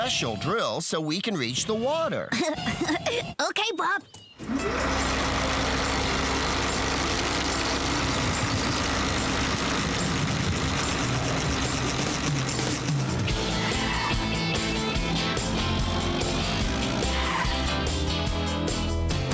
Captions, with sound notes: USING THIS SPECIAL DRILL SO WE CAN REACH THE WATER. ( Laughing ) OKAY, BOB. ( Whirring ) ( Brakes Screeching )